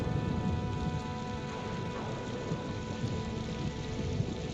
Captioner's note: rain pattering